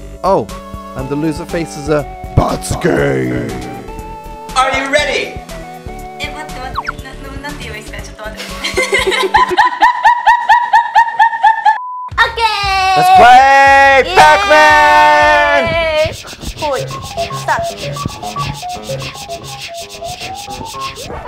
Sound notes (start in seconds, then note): 6.3 speaking in foreign language; 8.5 laughing; 16.7 8-bit music; 16.7 whirring